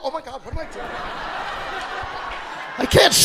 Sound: audience laughing

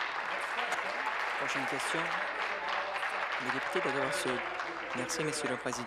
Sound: applause

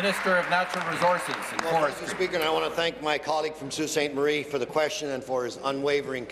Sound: applause

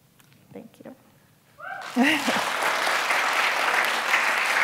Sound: applause

